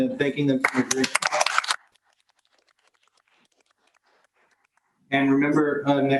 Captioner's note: audience clapping